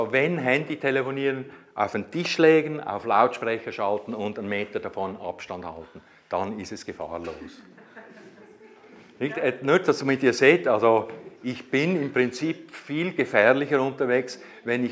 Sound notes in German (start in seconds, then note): 7.6 Gelächter